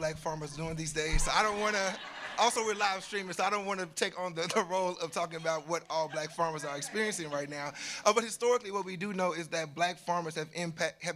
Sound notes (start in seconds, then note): 1.3 audience laughing